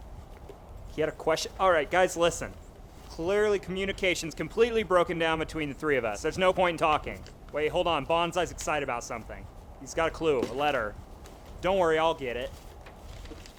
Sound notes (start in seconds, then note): none